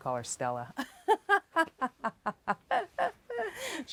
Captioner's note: laughs